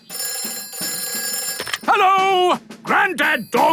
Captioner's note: telephone ringing